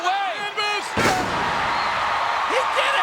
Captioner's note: audience cheers